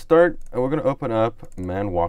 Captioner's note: clicks on mouse